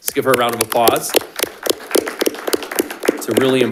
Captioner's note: attendees clapping